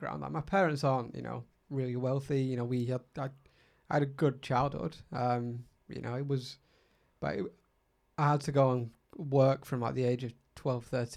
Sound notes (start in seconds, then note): none